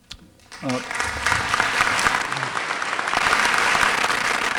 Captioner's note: applause